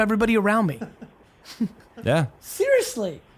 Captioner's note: team laughing